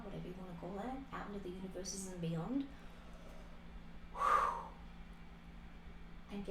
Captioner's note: swooshing sound